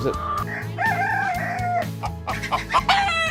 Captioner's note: rooster crows